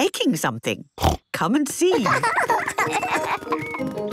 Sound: snorting; laughter

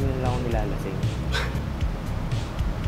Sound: snicker

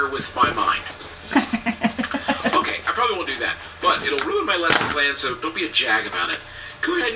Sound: laugh

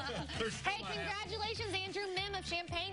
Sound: laughter

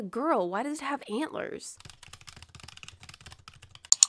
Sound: typing; click

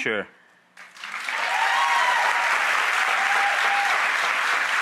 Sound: audience cheers

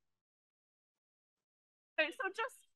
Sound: audio cuts out

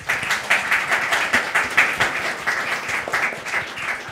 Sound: audience applauding

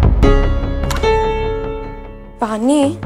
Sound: door opens

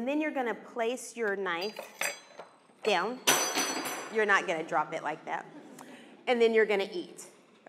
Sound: clanking

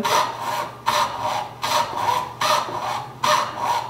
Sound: rasping

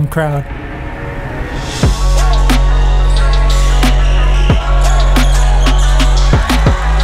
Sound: upbeat music; crowd shouting

